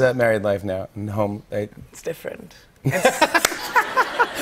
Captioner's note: laughter